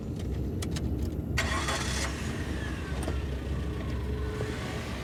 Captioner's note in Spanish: sonido del motor